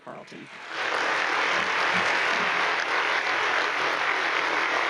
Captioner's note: audience applauds